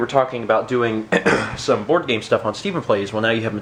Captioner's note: ahem